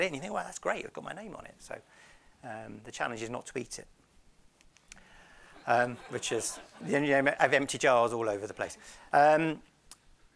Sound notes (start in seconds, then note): 5.5 audience laughs